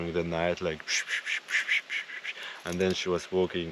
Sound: imitating the noises

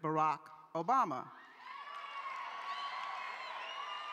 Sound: cheering

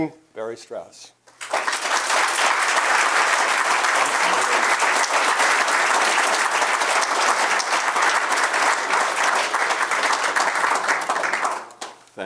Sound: applause

